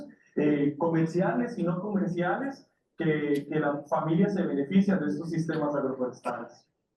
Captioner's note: speaking in foreign language continues